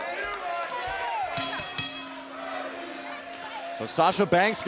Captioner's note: bell ringing